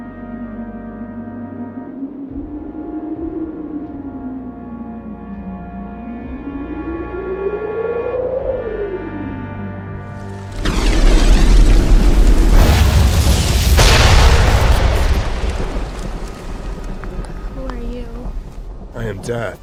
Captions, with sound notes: (Fire whoosh) (Thunder and explosions) Who are you? I am death.